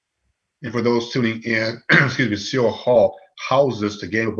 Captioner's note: coughing